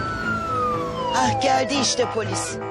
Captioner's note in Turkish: polis sireni duyuluyor